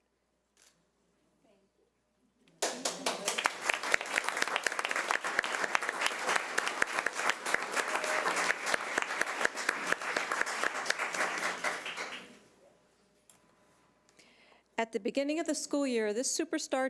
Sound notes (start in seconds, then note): 3.2 audience applause